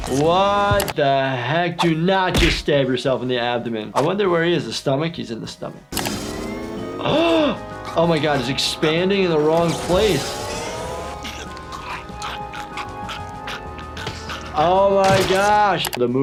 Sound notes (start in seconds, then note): 7.1 gasps; 10.8 Lumpy choking; 11.5 suspenseful music